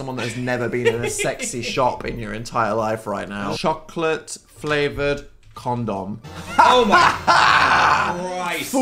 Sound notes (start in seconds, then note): 6.4 laughs